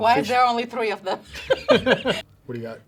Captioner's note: laughs